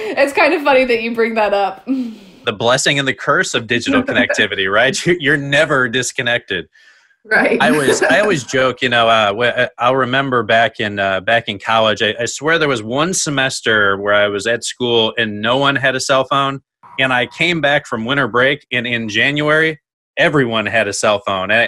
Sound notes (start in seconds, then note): 3.8 chuckles; 7.6 chuckles